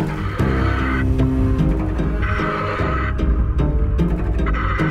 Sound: scuba breathing

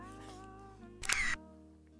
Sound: camera shot

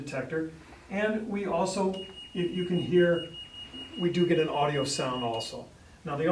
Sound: alarm beeps

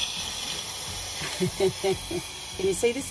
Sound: laughs

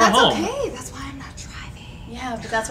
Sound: whispering

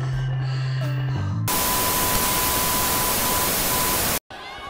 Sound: Static

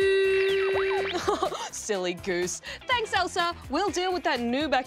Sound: laughs

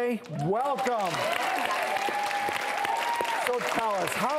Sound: audience cheers

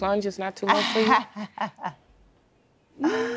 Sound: chuckles

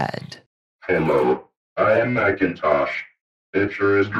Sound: computer Voice

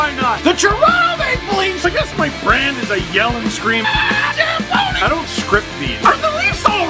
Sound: rock music plays throughout intro; screams

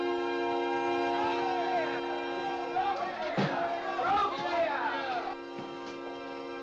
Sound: suspenseful music; crowd clamors; suspenseful music

